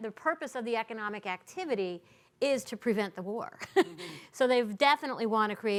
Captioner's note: laughing